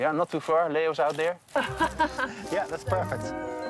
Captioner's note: laughs